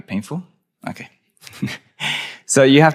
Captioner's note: chuckles